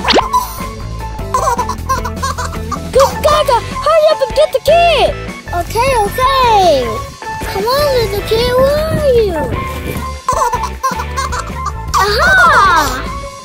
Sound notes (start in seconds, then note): 10.2 baby laughing